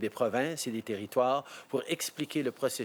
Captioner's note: speaking French